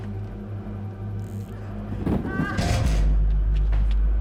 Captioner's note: thud, woman groans